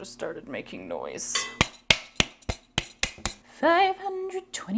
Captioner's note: clank, slapping; singing